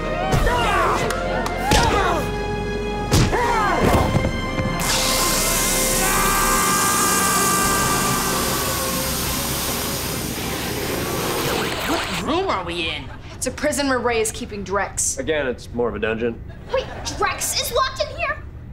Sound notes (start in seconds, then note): 2.9 grunting; 4.9 screaming